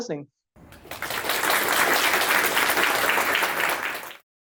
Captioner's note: audience applauds